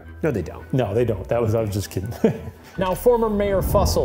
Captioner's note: chuckles